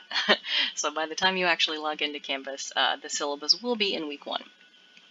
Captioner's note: laughs